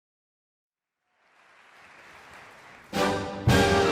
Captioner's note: audience applauding